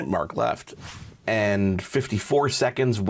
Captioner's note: air whooshing